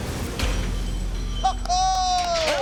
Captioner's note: all cheering